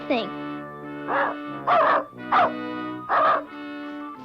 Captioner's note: Arrow barking